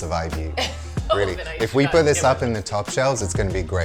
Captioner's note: laughs